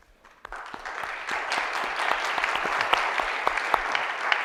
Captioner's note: audience applauding